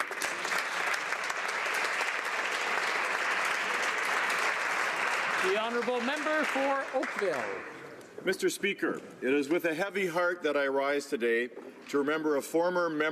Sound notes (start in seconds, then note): 4.0 applause